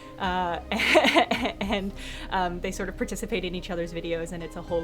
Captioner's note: laughs